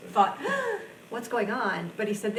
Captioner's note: gasps